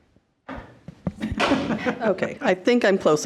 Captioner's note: trustee chuckling